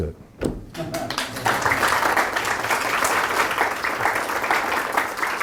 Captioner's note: audience applauding